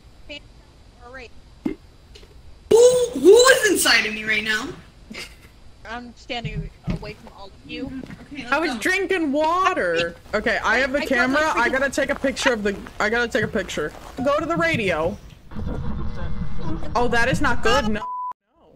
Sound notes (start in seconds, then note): 5.1 giggles; 15.3 radio buzzes